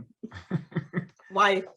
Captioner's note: chuckles